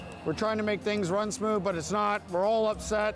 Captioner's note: cheering